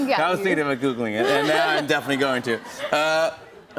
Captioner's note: laughter